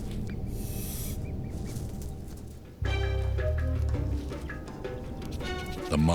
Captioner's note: snake hisses; light dramatic music